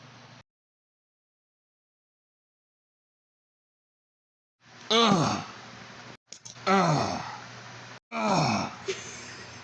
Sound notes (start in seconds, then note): 4.6 Shockwave Groaning Over And Over